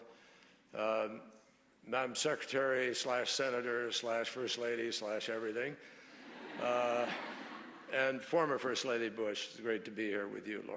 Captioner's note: laughter